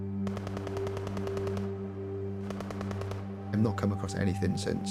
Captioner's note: distant gun fire